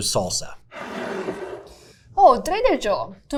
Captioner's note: jar scraping